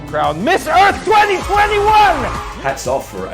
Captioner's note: crowd cheering